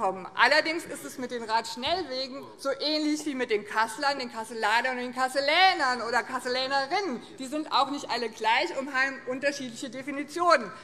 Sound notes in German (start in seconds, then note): none